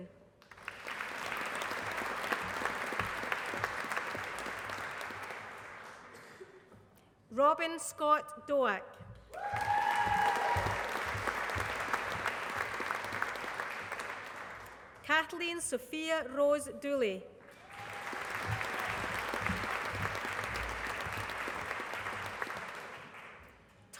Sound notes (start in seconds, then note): 0.4 applause; 9.3 applause; 17.4 applause